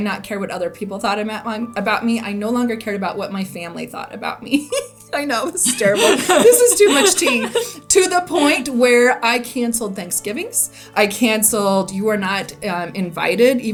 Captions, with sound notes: not care what other people thought about me, I no longer cared about what my family thought about me. (laughs) I know this is terrible. This is too much tea. To the point where I canceled Thanksgivings, I canceled, you are not invited,